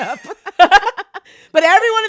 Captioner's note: laughs